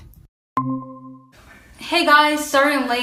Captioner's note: soft tone